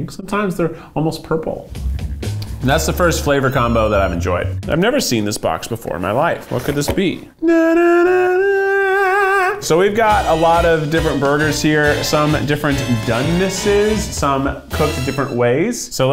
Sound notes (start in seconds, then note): 1.7 upbeat music; 7.4 humming